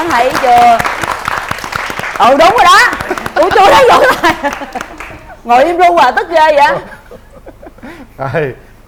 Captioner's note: applause